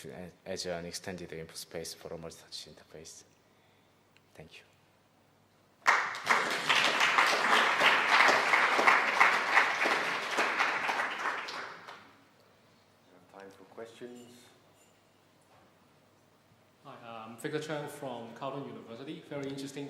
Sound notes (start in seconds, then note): 5.8 applause